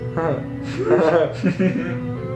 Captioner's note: laughs